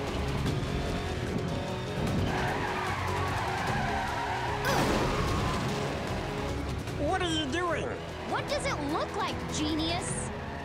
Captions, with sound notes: [wheels screeching] [cars crashing] - What're you doing? - What does it look like, genius?